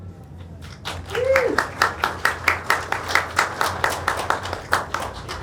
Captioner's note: audience applauding